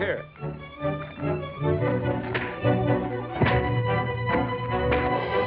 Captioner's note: punches thud